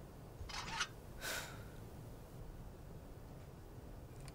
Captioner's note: engine screeching; Quinn sighs